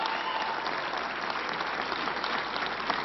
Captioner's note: applause